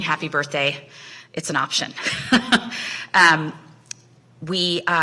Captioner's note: laughs